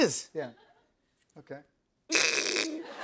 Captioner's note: duck call; laughter